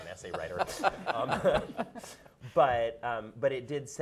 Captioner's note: laughing